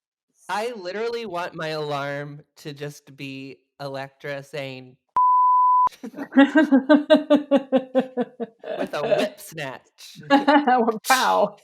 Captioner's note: both laugh